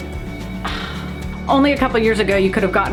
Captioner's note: sigh